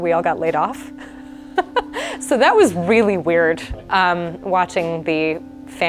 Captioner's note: laughs